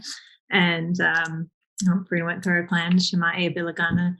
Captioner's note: introduces self in native language